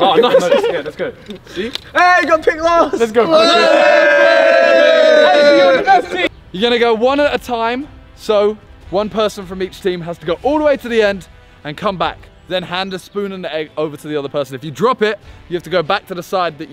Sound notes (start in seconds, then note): 3.3 men cheering